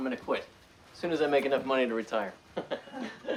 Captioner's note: laughs